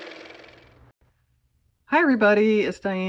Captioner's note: car motor